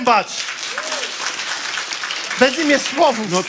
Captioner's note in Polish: oklaski publiczności